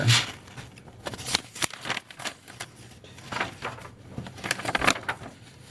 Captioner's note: paper crinkling